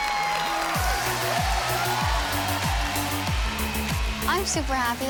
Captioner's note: cheering and applause